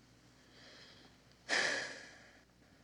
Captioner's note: sighing